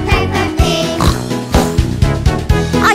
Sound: snort snort

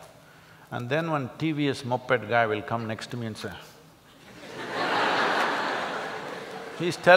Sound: laughter

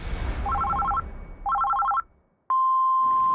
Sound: dramatic intense music; phone ringing; answer machine beeping

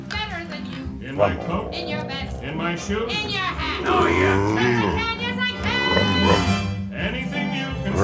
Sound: engine sounds

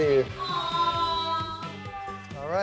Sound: aww

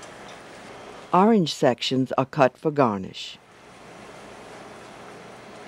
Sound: voiceover

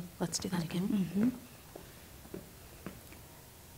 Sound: shuffling

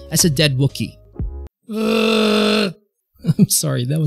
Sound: makes a not a wookie noise

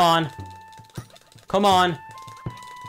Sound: mashing button

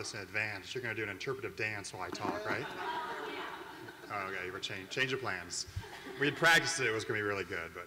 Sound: laugh

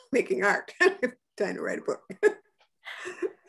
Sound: laughs

